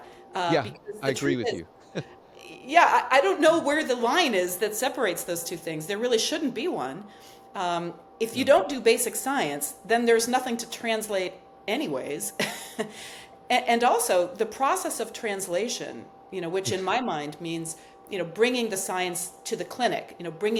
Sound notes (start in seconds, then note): 1.8 chuckles; 12.4 chuckles; 16.8 chuckles